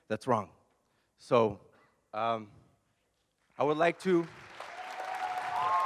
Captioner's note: applause